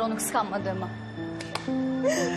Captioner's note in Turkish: Alkış